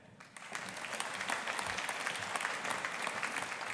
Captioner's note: audience applauding